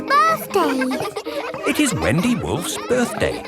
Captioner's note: kids laughing